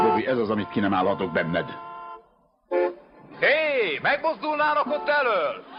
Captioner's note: horns honking